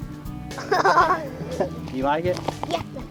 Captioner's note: laughter